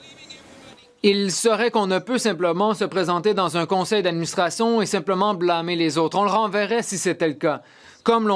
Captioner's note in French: voix de l'interprète